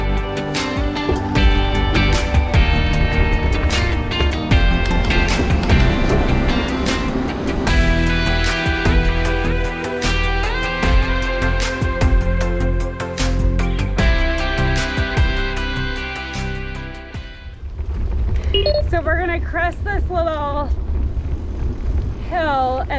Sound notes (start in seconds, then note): 0.2 bouncy music continues; 16.9 bouncy music ends; 18.5 beeping sound